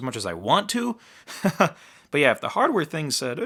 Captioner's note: laughing